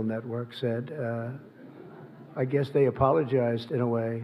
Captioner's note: laughter